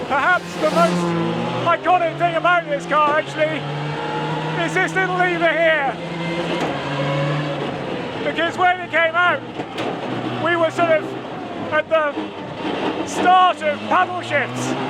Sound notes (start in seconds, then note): 6.0 transmission whining